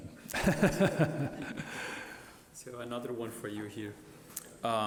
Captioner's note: laughs